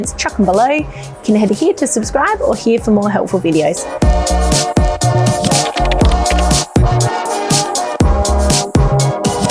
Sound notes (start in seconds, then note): 3.6 upbeat instrumental music; 4.9 keyboard clicks